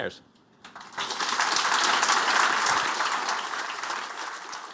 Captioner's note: applause